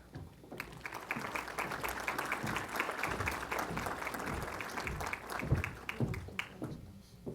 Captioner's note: applause